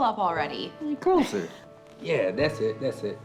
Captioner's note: Lisa giggling